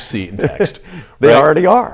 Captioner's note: laughs